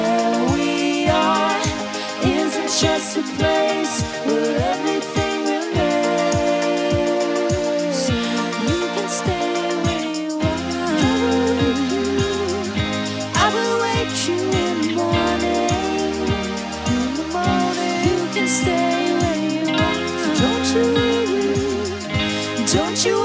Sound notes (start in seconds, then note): 16.1 english accent